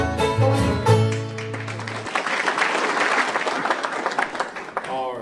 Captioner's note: applauding